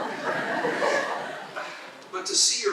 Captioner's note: laughter